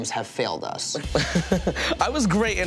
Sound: laughing

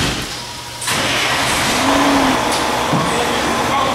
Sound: engine starting

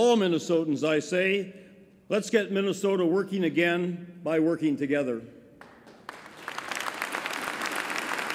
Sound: applause

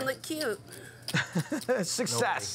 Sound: laughing

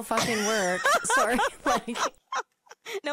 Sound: laughing

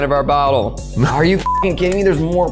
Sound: beep

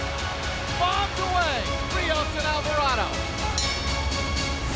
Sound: bell rings

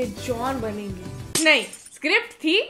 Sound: glass and hopes shatter

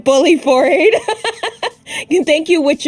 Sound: laughs

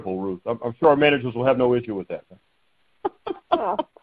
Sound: chuckling

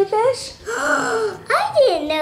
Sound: gasping

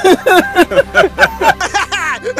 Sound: laughter

